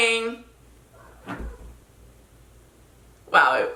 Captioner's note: Moo meows